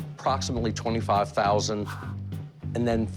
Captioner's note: sighs